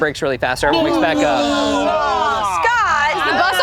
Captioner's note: group groaning